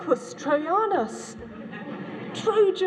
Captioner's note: laughter